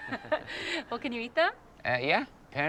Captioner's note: laughing